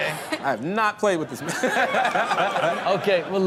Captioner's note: laughs